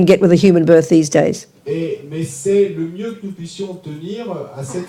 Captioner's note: speaking in French